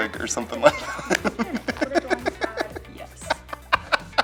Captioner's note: laughter